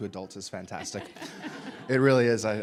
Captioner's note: audience laughing